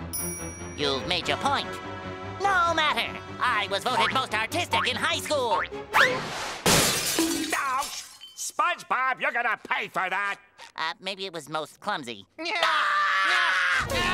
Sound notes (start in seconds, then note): 6.6 shattering; 12.4 screaming